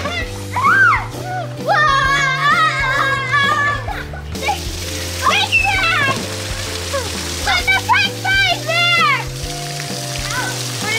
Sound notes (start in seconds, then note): 6.0 splash